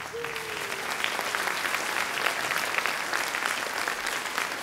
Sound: audience clapping

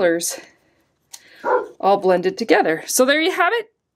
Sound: Abby barks in the back ground

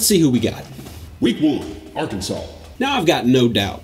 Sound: automated Voiceover

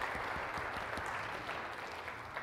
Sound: applause

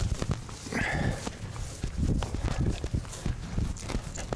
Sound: breathing heavily

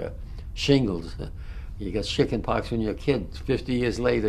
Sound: laughs

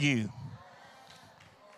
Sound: congregation muttering in agreement

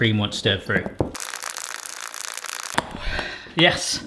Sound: whisking; sighing

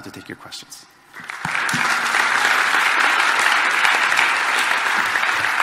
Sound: audience applauding

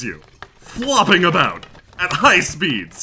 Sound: skeletal clatter

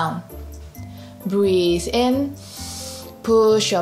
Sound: breathes in deeply

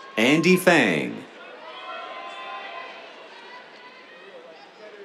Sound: cheers

